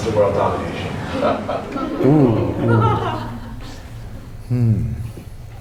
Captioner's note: laughter